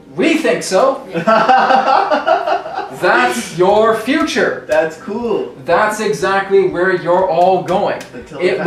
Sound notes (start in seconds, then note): 1.1 laughter